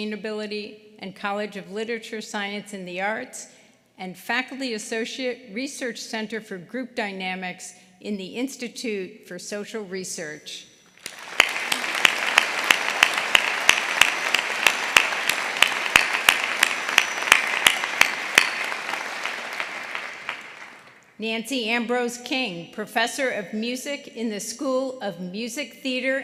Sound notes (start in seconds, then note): 11.0 applause